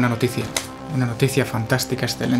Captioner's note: clap